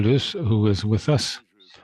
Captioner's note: speaking French